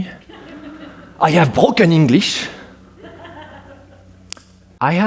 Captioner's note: audience laughing